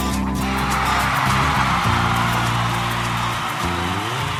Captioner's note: cheering